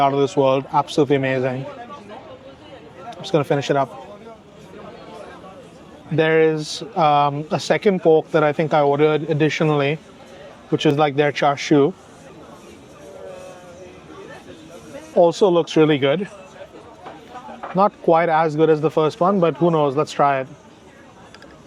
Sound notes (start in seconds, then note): 13.0 people chattering